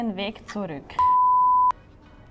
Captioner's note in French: Bip